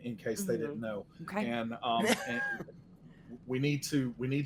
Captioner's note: laughs